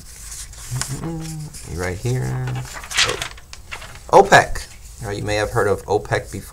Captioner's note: hums